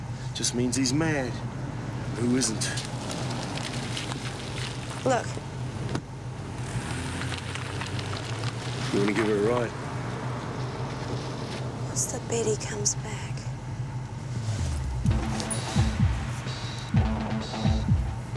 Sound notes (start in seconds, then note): 3.2 car engine revving; 5.7 car door thuds; 7.0 car engine revving; 15.1 energetic rock music